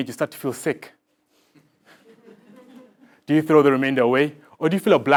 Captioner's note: laugh